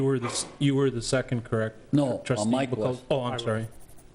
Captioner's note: pat